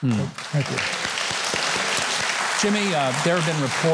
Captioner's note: applause